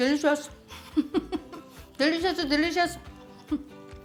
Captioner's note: laughs